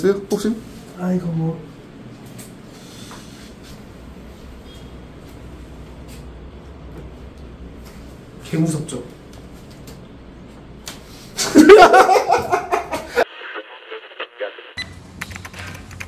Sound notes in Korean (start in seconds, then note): 11.4 웃참실패